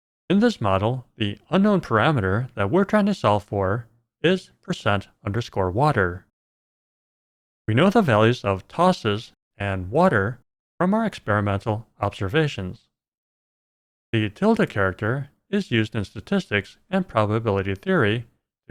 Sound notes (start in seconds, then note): none